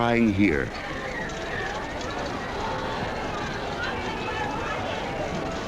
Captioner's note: crowd murmuring